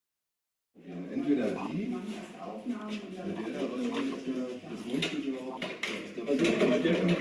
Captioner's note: handlers speaking in foreign language